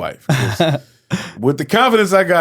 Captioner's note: laughing